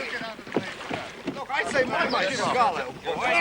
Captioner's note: all clamouring